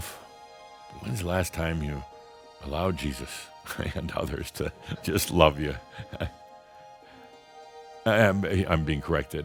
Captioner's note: chuckles